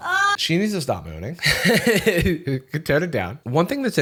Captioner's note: moans; laughs